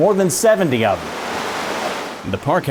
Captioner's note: water flowing